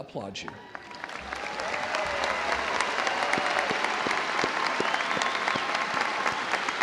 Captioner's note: audience applauding; audience cheering